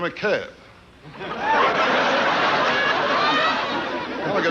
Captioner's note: audience laughing